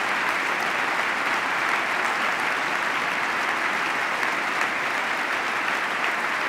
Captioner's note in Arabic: تصفيق